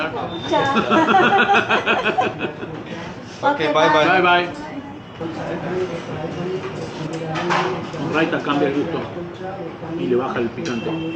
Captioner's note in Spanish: risas